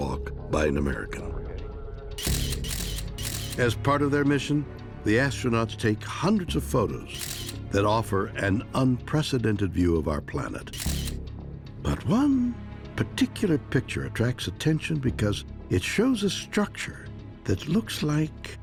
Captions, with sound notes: by an American. [shutter clicking] As part of their mission, the astronauts take hundreds of photos that offer an unprecedented view of our planet. But one particular picture attracts attention because it shows a structure that looks like...